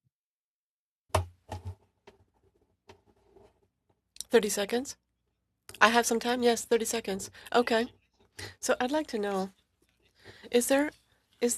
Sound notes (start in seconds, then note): 3.2 speaking French